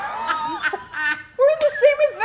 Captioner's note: all laughing